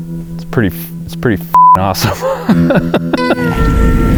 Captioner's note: beep; laughs; car engine humming